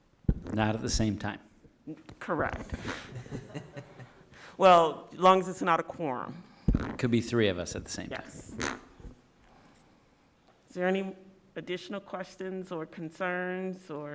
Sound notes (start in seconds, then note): 2.8 laughs